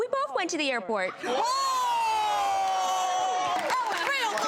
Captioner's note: everyone clapping and cheering